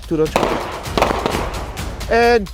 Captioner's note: gun firing